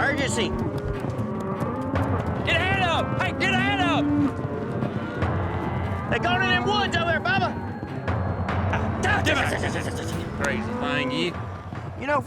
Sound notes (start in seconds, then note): 0.2 mooing; 9.3 squeaky sounds